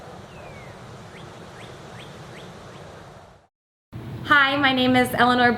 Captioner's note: birds chirping